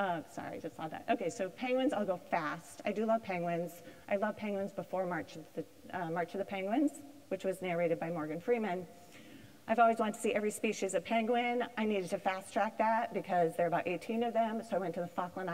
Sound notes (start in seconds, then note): none